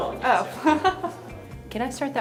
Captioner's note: laughs